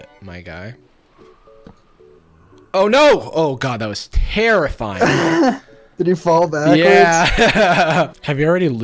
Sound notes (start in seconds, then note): 6.9 laughs; 7.0 chuckles